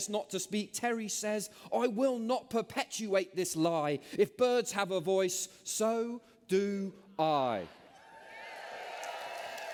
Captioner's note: cheers